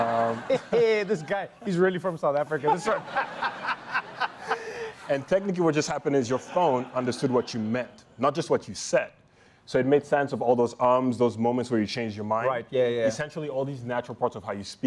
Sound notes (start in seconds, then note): 2.6 laughter